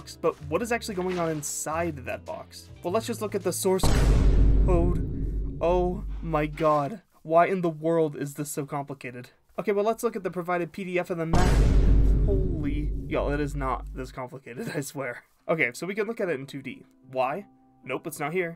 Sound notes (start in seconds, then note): 3.8 boom; 11.3 boom